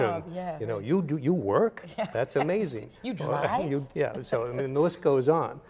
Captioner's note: laughter